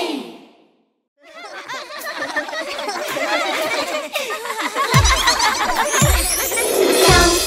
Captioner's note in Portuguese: Risos